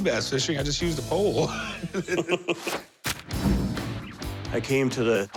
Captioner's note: laughter